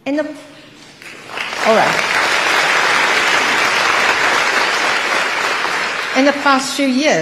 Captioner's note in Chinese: 台下熱烈鼓掌